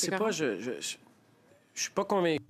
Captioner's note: speaking French